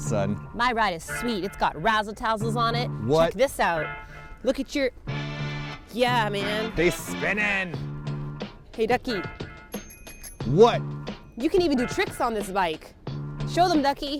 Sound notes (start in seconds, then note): 9.7 ring ring